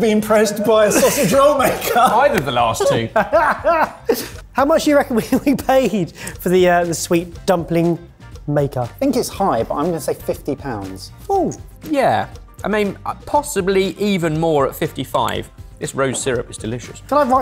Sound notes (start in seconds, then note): 3.5 laughing